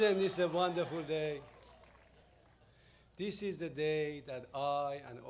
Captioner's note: applause